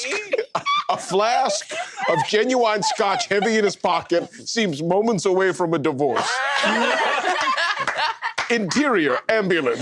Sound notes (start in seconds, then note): 0.0 laughter; 6.2 uproarious laughter